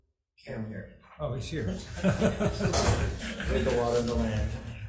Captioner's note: laughs